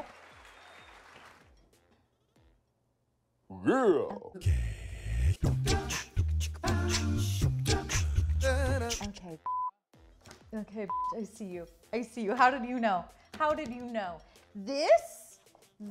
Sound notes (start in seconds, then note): 0.0 applause; 4.4 beatboxing; 10.9 beep